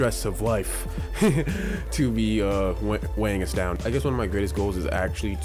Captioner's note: laughing